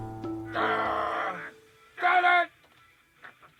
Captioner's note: yelling